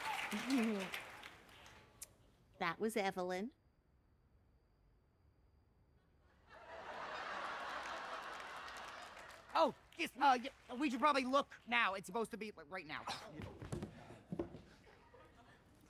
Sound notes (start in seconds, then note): 0.2 chuckles; 9.6 stammers